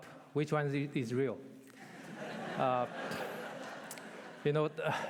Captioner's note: laughter